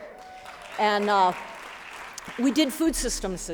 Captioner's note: applause